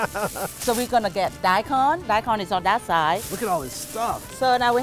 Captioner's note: laughter